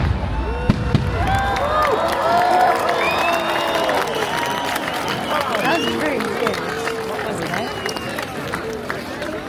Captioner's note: applause